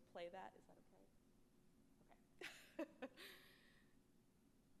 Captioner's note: laughs